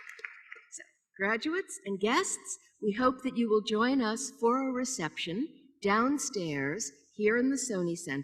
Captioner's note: applause